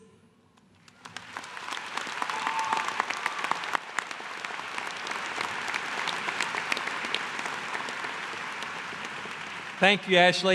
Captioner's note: applause